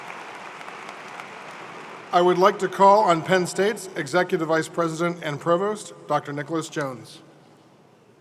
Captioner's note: applause